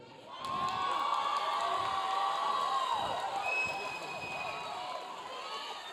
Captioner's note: audience cheering